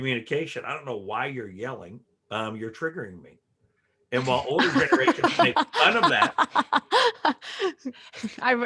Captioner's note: all laugh